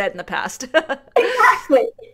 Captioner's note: laughter